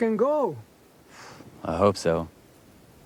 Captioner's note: exhales